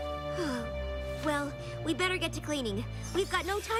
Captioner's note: sisighs